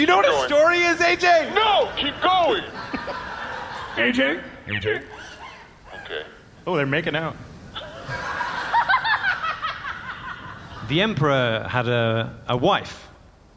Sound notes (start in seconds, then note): 6.6 servo noises